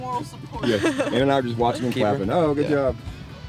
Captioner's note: laughing